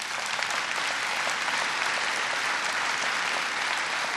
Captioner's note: applause